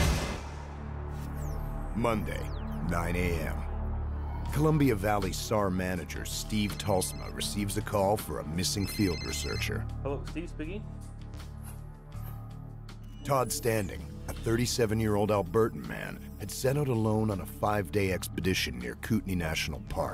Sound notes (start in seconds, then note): 6.1 radar dinging; 12.2 voiceover